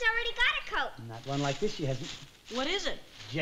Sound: paper crinkling

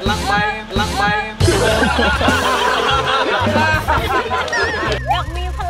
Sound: laughs

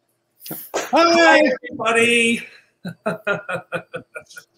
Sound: laughs

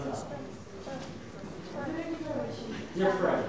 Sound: non-english speech

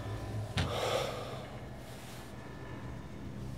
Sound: Ryder sighing

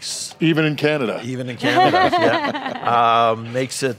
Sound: laughs

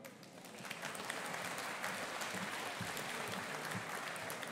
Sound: audience applauding

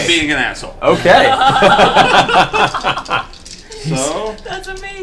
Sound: all laugh

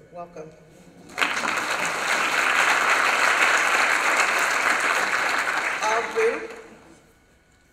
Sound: applause

